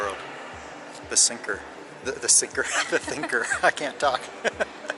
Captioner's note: laughs